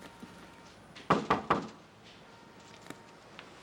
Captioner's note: knock at door